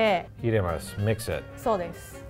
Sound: speaks in foreign language

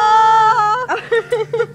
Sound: laughing

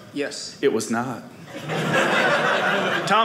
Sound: audience laughing

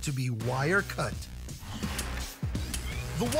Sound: machinery running

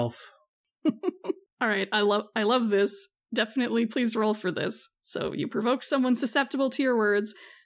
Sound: laughs

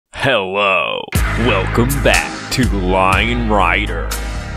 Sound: dramatically

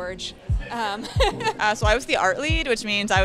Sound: laughs

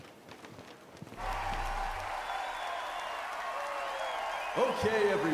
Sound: crowd cheering

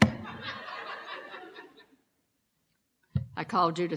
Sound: laughter

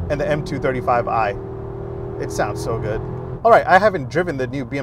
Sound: car engine revving

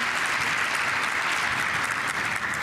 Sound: applause

